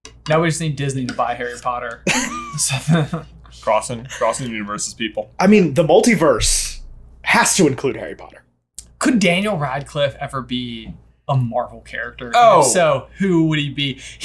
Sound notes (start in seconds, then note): 2.0 laughing; 2.0 chuckling